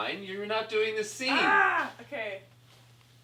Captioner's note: yells